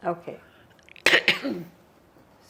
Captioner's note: coughing